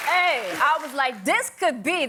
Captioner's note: applause